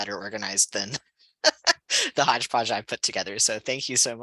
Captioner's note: laughter